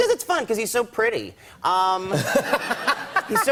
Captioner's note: laughter